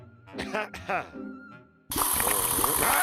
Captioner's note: clears throat